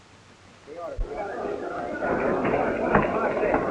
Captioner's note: crowd murmuring